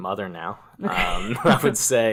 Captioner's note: laugh